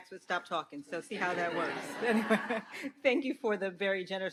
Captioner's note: everyone laughs